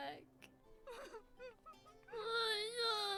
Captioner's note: dulia crying